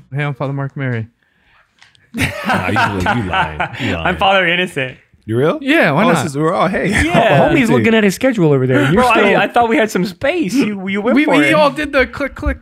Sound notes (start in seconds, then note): 2.1 laughs